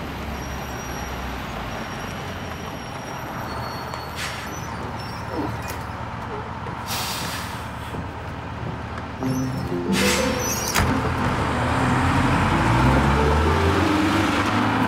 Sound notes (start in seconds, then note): 6.8 brakes expressing air